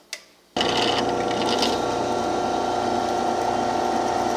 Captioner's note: drilling